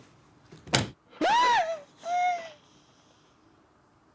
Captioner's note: crying out